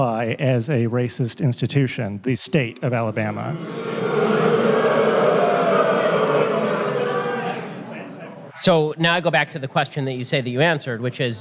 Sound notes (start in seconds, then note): 5.4 audience boos